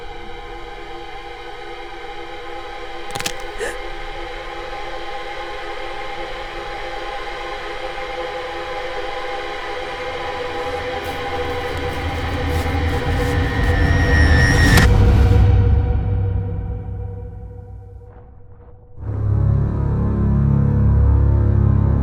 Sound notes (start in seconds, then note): 3.1 branch snapping; 3.1 gasping; 19.0 foreboding music